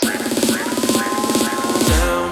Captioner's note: crowd cheers